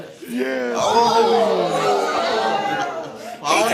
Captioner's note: guests exclaiming